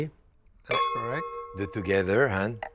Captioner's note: glasses clink